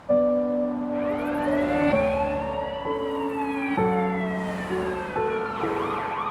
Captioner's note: slow, melancholy music; sirens blare